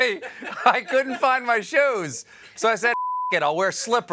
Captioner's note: laughter